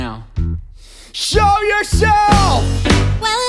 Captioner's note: deep breath